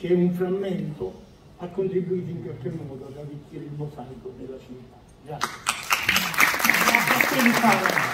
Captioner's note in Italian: Applauso